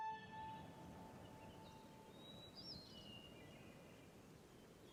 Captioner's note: birds chirping